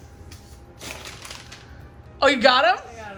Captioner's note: paper flaps